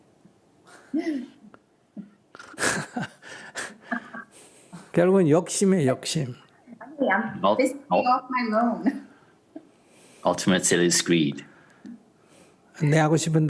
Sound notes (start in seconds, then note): 0.9 questioner laughter; 2.3 laughter